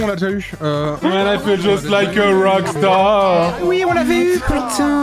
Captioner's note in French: chantonne